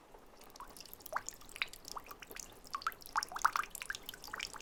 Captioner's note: the sound of lapping water